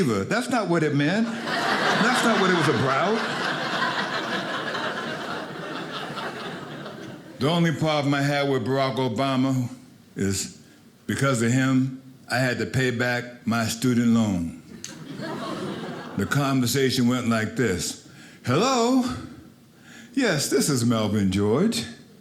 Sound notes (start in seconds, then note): 3.2 audience laughing